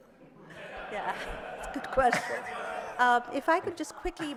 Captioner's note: laughing